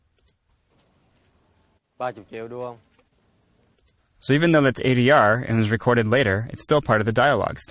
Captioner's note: vietnamese dialogue